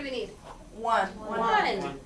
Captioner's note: voiceover